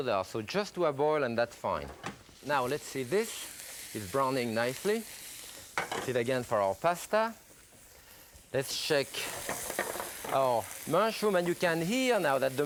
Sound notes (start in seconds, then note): 3.4 skillet sizzling; 5.8 skillet clatters; 9.4 skillet clatters